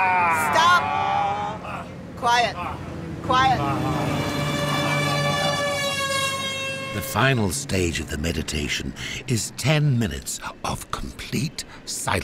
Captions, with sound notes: Stop! Quiet! Quiet! (Loud car horn) The final stage of the meditation is 10 minutes of complete silence.